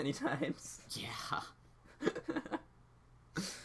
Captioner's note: laughs